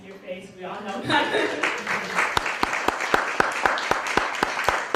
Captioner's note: applause